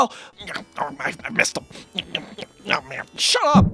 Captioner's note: nasty Grunts and Tongue Noises